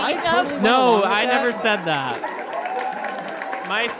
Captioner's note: audience laughs and applauds